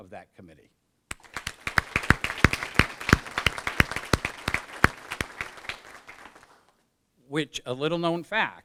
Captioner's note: applause